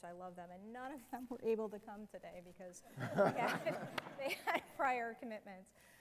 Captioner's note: laughter